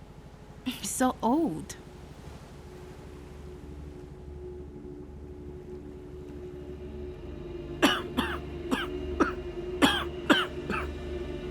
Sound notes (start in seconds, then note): 3.1 ominous music; 7.8 coughing